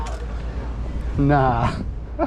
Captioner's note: chuckles